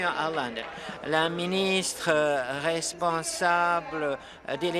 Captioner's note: applause